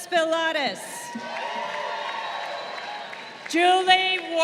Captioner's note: crowd cheering